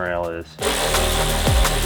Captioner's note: impact whirring